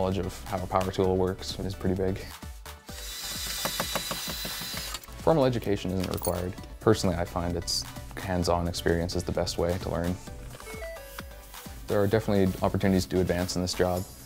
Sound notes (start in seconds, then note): 2.9 drill sound; 10.1 beeping